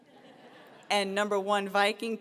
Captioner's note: laughter